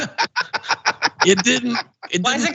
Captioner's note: laugh